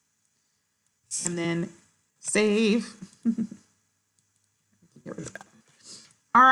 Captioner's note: laughs